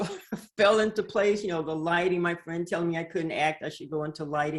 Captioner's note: laughs